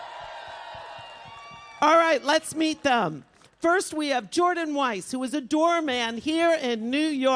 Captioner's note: applause